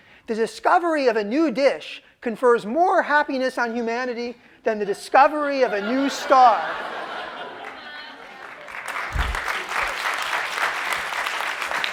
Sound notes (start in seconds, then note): 5.5 laughter; 7.5 applause